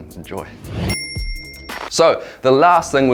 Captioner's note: bell dings